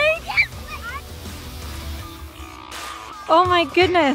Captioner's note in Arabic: صراخ